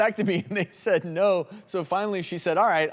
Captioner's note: laughs